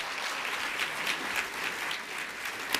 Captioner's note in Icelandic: fagnaðarlæti